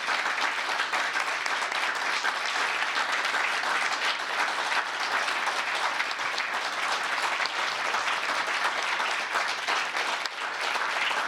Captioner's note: applause